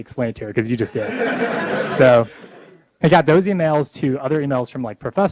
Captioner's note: laughter